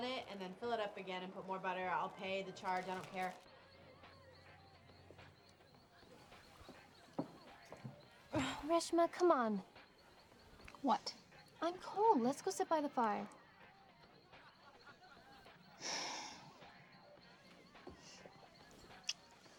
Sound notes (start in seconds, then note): 15.8 sighs